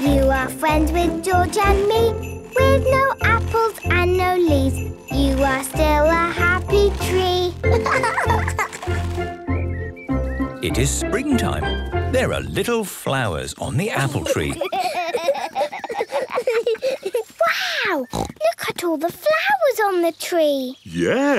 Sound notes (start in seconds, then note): 7.6 laughing; 8.7 birdsong; 14.0 laughter